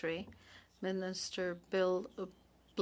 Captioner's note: speaking French